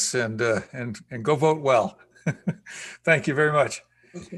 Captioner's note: laughs